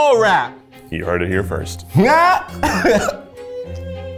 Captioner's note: laughs